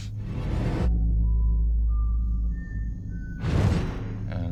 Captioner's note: whistling